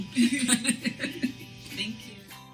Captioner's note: laughs